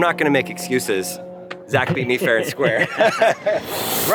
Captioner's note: laughs